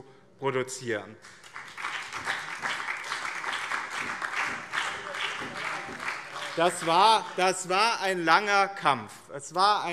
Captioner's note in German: Beifall BÜNDNIS 90/DIE GRÜNEN, vereinzelt SPD und DIE LINKE